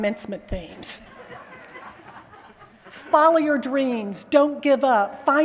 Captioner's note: laughter